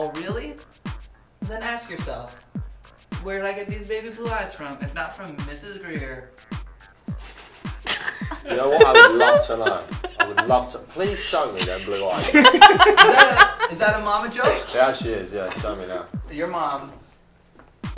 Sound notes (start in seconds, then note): 7.0 laughs